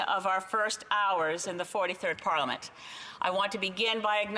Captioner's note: speaking in French